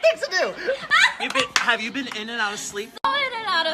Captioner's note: laughs